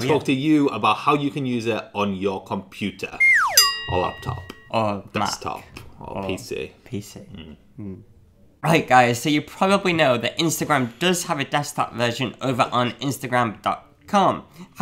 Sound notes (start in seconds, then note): 3.2 slide whistle